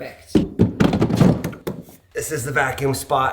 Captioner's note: basin clattering